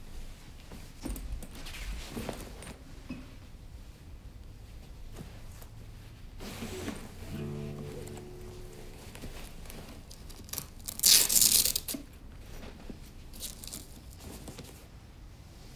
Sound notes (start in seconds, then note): 10.9 velcro rips